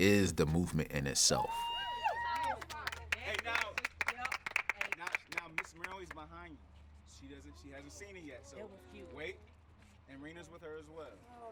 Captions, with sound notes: And that is The Movement in itself. [cheering and applause] Now, Ms. Myrlie is behind you. She hasn't seen it yet. So wait. And Reena is with her as well.